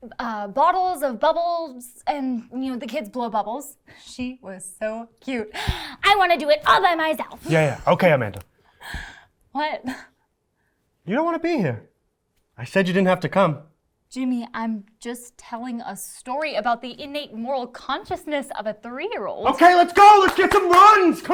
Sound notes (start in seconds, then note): 5.6 big inhale